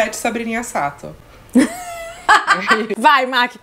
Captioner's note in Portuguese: risos